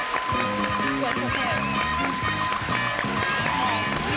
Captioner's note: indistinct conversation